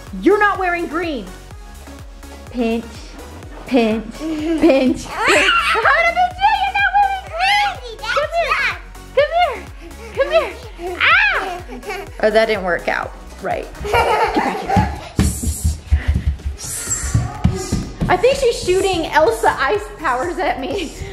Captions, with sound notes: you're not wearing green, pinch, pinch, pinch. I'm gonna pinch you, you're not wearing green! Come here! Come here! Ah! Well that didn't work out right. (loud thumping) I think she's shooting Elsa ice powers at me.